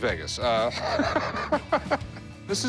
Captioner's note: laughter